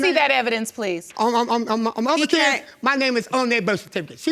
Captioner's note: stammering